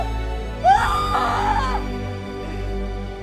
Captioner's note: Screaming